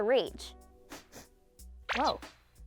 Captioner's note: sniffing